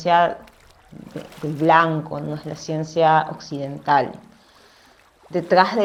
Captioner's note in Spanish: sonidos de agua, hojas y flores rojas y voz off femenina #6